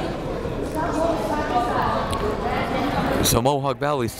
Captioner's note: speaking faintly